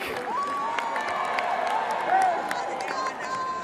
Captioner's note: cheers and applause